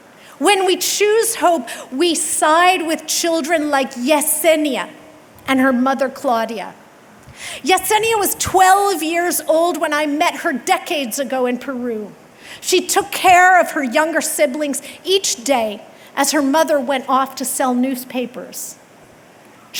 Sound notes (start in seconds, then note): none